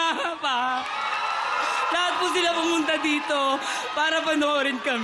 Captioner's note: crowd cheering